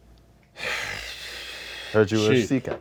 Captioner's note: fish woman sighs